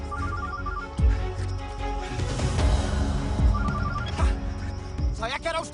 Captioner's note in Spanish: Suena un celular